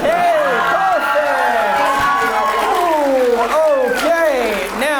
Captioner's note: audience cheers